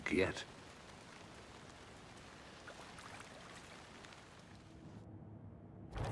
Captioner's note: water lapping